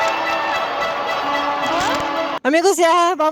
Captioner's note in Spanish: ovación